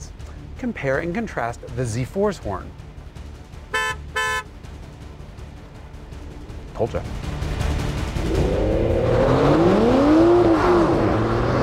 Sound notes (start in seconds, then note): 3.7 Z4's robust horn honk